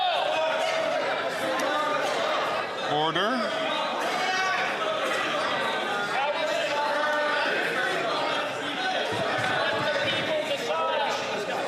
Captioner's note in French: voix de l'interprète